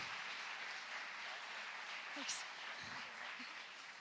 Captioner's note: applause